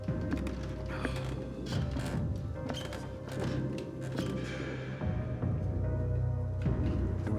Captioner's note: eerie music continues; stairs creaking